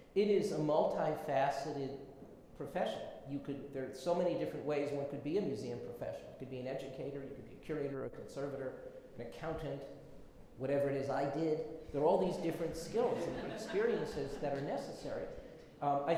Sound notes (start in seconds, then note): 12.6 audience laughs